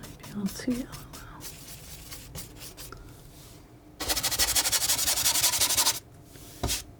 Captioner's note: scratching